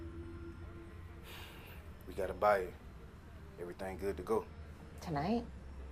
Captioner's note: sighs